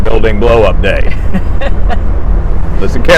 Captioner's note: laughing